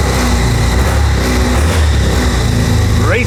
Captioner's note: engine revs